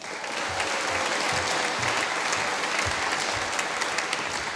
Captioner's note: applause